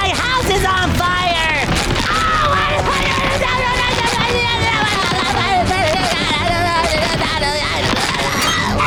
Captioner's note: screaming, babbling